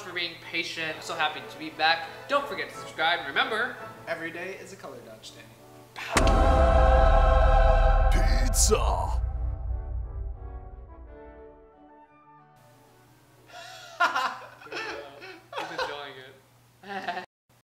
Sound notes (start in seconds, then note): 13.7 laughter